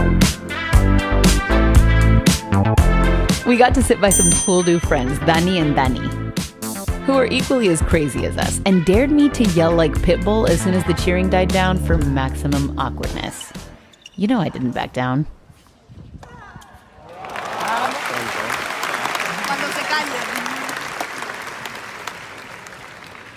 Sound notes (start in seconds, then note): 16.9 crowd cheering; 19.4 speaks in a foreign language